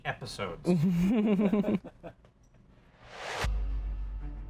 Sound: laughing; woosh

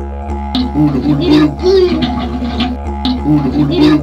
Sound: man and child making silly noises

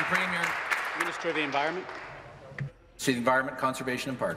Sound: applause

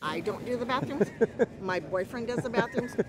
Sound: laughter

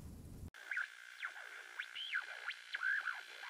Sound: radio static

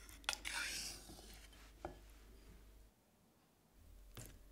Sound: spatula scratching

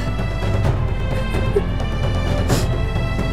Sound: sobbing

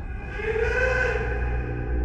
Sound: ghostly voice

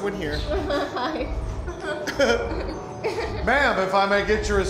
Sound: chuckles

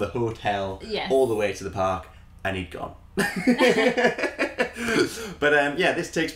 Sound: laughter

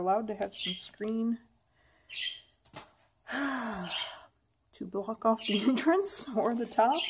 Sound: sigh

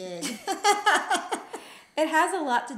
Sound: laughing

